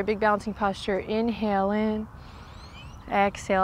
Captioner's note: takes deep breath; blows out breath